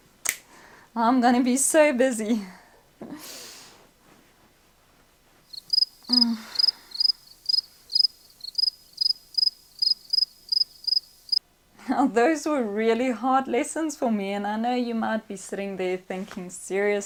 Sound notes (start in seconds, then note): 5.5 crickets